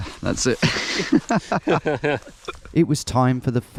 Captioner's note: laughing